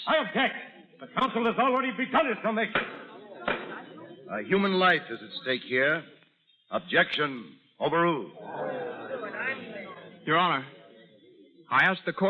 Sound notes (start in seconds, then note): 8.2 audience murmurs